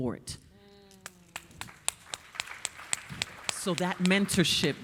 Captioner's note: audience applauding